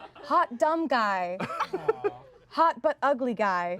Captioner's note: everyone laughs; everyone laughs